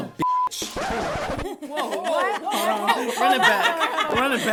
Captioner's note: laughter